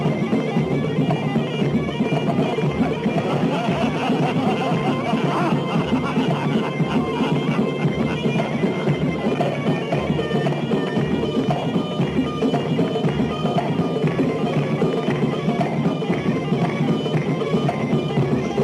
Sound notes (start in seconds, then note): 3.8 men laughing